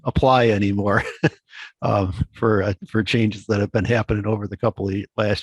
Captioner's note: chuckles